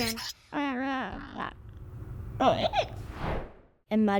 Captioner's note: squeaking noises